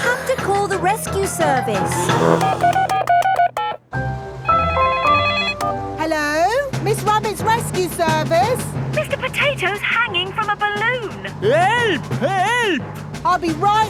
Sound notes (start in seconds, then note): 1.9 beeping; 4.7 phone ringing